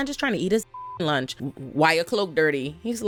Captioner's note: beep